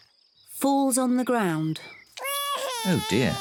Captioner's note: cries